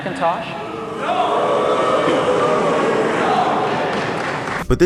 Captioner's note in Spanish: Toneladas de abucheos en la multitud